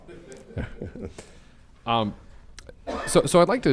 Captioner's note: group laughing